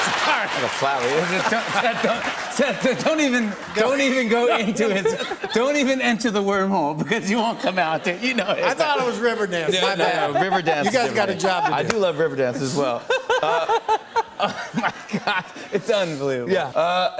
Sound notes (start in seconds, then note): 13.6 laughs